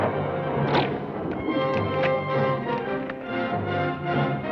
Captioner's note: gun fires; bow twangs